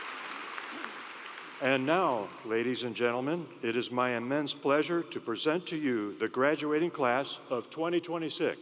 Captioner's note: applause